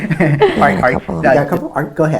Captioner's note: laughs